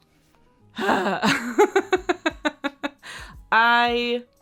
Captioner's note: laughing